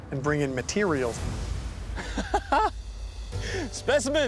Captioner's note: laugh